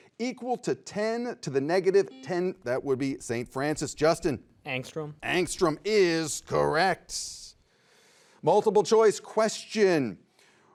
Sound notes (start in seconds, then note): 2.1 buzzer beeps